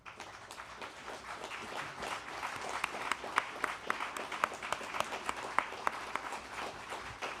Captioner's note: applause